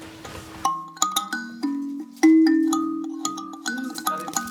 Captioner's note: jingling sounds